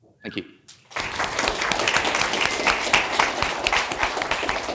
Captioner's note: audience applauding